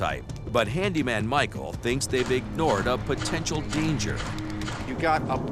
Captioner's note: none